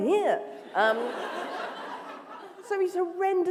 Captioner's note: laughter